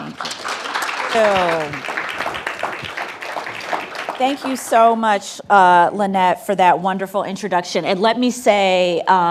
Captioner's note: applause